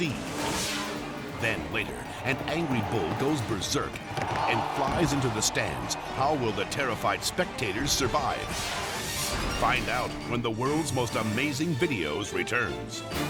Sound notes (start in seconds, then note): 0.2 scene swooshing; 8.4 scene swooshing